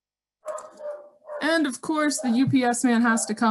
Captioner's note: dog barking